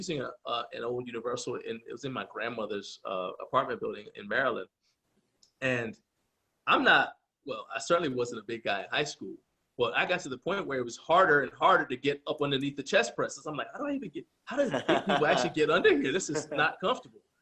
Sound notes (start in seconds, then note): 14.5 laughs